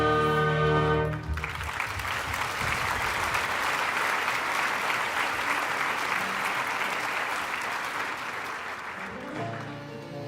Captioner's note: applause